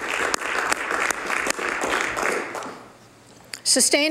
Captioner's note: some Applause